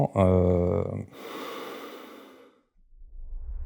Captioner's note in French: Soupir